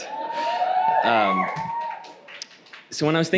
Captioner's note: audience applauding